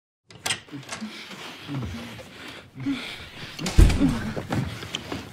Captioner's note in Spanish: Gemidos